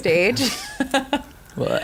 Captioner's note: laughter